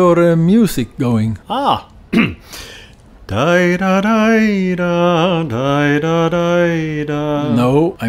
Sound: starts humming a tune

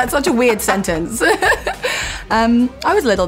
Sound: laughs

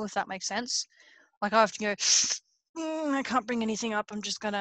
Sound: inhales sharply

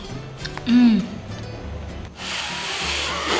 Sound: moans

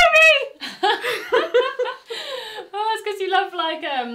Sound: both laugh

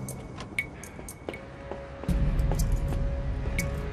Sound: roaring of machine

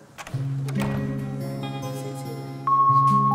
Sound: door closes

